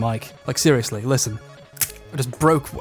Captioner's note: breaks eggshell